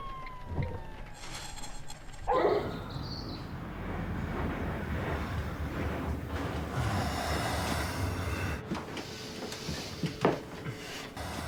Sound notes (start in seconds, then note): 6.6 Malcolm exhales